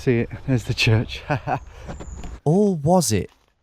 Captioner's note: chuckles